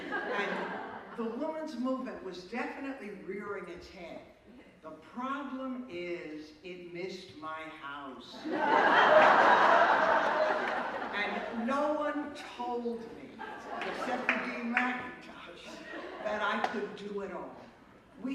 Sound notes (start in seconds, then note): 8.4 laughter